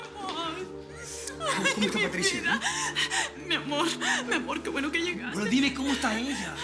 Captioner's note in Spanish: Sollozos